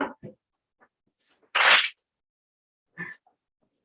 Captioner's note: clap